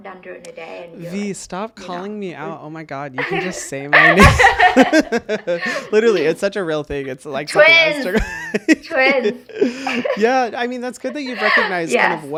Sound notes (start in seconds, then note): 4.8 people laughing